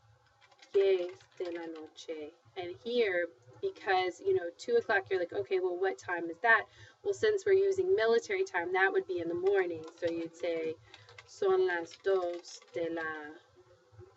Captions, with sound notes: And here because 2 o'clock, you're like-- OK, well, what time is that? Well since we're using military time, that would be in the morning, so you'd say, [speaking spanish].